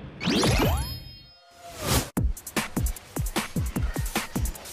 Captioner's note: whoosh